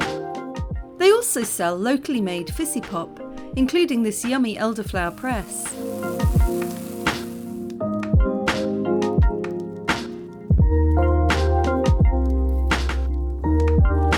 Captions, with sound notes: They also sell locally-made fizzy pop, including this yummy elderflower press. [fizzing] [chill music]